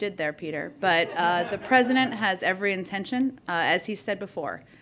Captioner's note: laughter